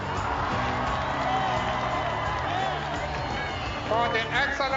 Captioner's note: cheering